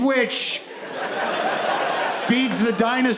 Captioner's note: audience laughs